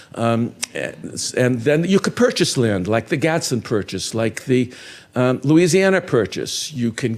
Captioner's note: none